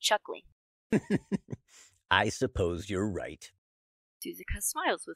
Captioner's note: chuckles